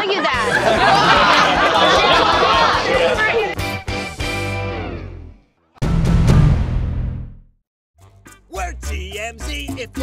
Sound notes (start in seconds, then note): 1.5 laughter